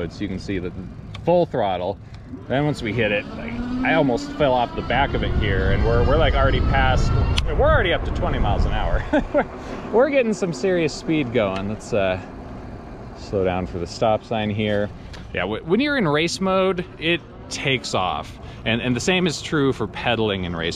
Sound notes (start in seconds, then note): 8.9 laughs